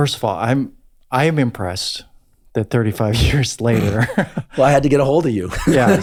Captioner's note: laughs